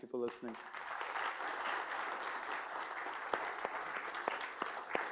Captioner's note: applause